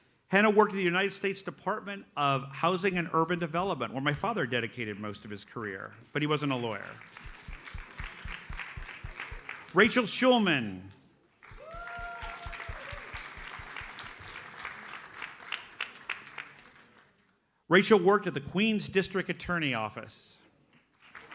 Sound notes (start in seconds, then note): 6.7 audience applauds; 11.4 audience applauds